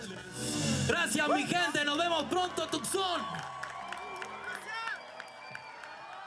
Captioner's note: speaking in foreign language